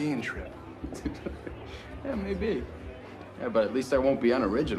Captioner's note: laughing